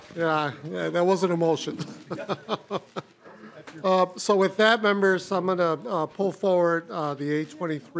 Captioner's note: laughing